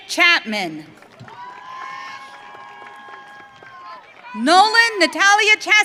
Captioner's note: audience cheering